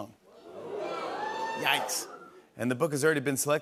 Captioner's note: audience "Oohs"